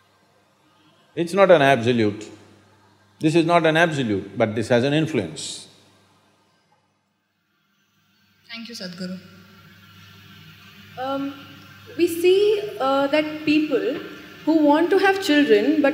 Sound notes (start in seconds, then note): none